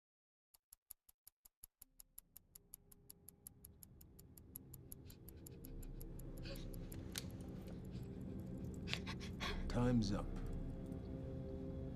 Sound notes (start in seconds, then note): 0.7 clock ticking; 6.4 sniffles